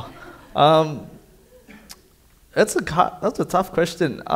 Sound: audience laughing

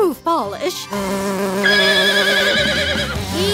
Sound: neighing

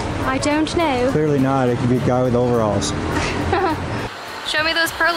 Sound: laughter

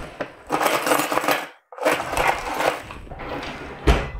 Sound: metal clanking

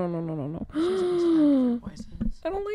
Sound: gasps

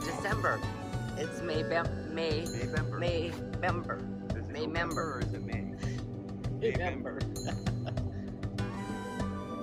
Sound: laughs

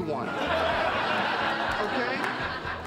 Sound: audience laughing

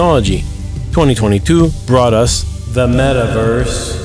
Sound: echo

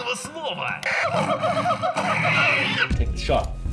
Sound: Hazel is now speaking Russian; Hazel is now speaking like a monkey

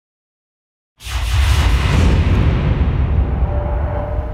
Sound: logo whooshes

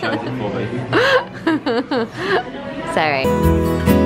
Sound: laughs

